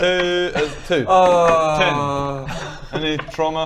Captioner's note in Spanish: AAWWWWWWWWWWWwwwrrrgghh